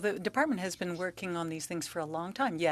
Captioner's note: speaking French